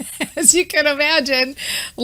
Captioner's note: laughing